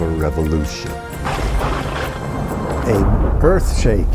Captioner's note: thunder rumbling